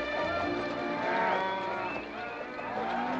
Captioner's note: cattle mooing; whistling & mooing